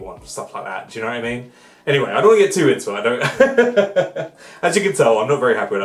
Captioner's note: laughs